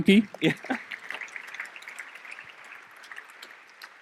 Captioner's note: applause